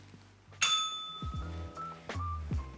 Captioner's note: slow music; bell rings